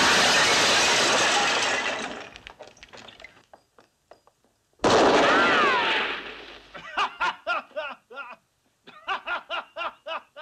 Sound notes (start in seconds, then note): 4.8 gunshots; 6.8 Luke laughing